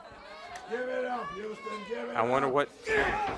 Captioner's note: crowd chatter